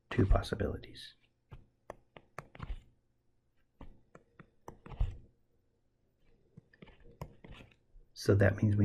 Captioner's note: tapping Sounds